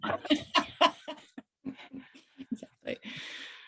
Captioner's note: all laughing